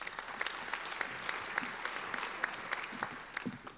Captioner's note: applauding